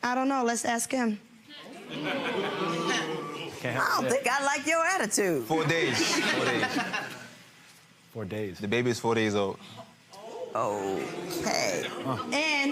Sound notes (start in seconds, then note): 1.8 scattered laughing; 11.2 groaning